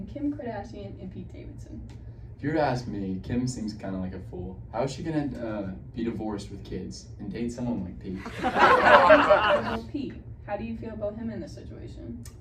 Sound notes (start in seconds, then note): 8.2 audience laughing